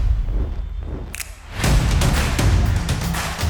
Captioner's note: snap; distant cheering; percussive music playing